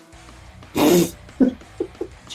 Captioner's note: laughs